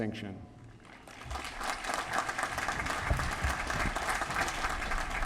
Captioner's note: applause